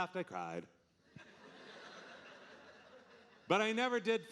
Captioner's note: audience laughing